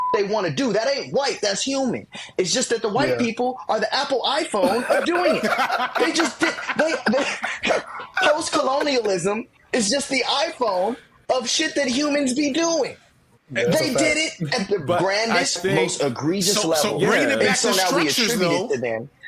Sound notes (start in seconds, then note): 4.6 all laughing